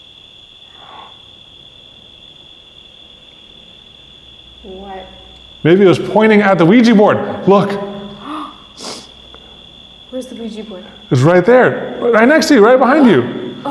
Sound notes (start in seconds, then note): 1.0 gasps; 8.2 gasps